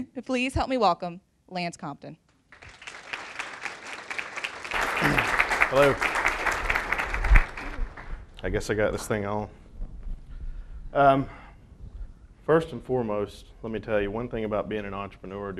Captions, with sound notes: Please help me welcome Lance Compton. (applause) - Hello. I guess I got this thing on. First and foremost, let me tell you. One thing about being and entrepreneur,